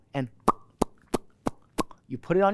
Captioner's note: popping sounds